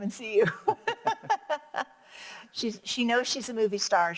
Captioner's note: both laugh